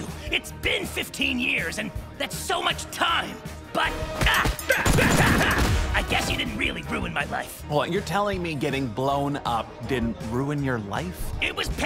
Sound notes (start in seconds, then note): 4.2 fizz fighty sounds